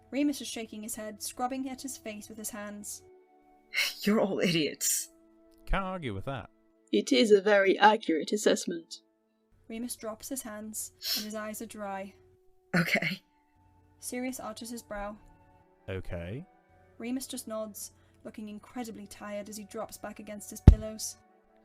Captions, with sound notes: Remus is shaking his head, scrubbing at his face with his hands. “You’re all idiots,” “Can’t argue with that,” “It is a very accurate assessment,” Remus drops his hands, [Remus sniffs] and his eyes are dry. “Okay.” Sirius arches his brow. “Okay?” Remus just nods, looking incredibly tired as he drops back against his pillows. [Muffled thud]